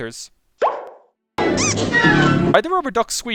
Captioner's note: rubber duck-like squeak